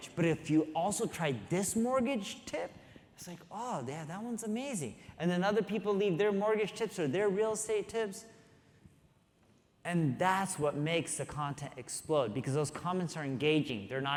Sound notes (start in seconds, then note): none